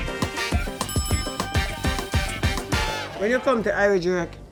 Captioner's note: bell rings